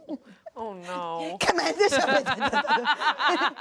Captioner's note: jabbers; everyone laughs